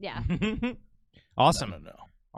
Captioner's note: laughs